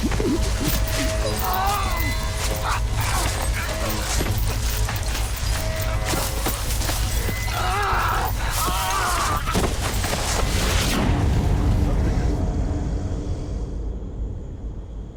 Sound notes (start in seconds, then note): 0.2 struggling, moaning; 8.9 screaming